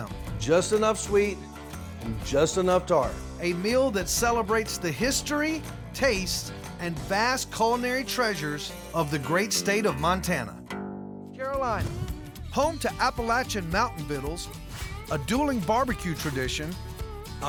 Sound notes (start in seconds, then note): none